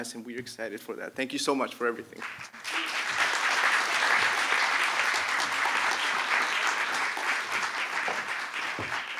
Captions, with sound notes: And we are excited for that. Thank you so much for everything. [APPLAUSE]